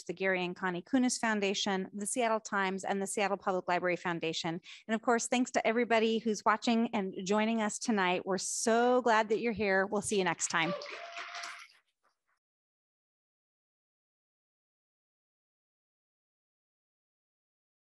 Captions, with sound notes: the Gary and Connie Kunis Foundation, The Seattle Times, and The Seattle Public Library Foundation. And of course, thanks to everybody who's watching and joining us tonight. We're so glad that you're here. We'll see you next time. (audience applauds)